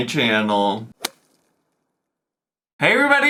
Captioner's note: graphic popping